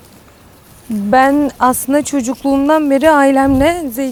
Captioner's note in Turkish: Yaprak hışırtıları